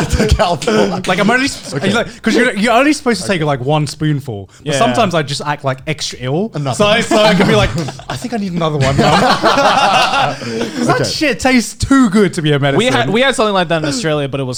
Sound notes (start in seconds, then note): 9.2 laughing